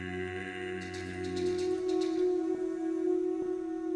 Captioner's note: tapping